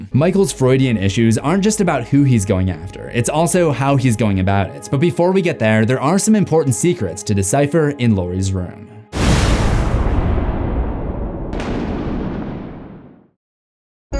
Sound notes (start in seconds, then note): 9.2 thunder rumbling